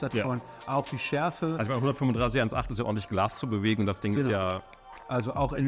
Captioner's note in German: schnipst